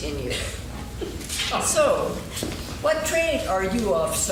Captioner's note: laughing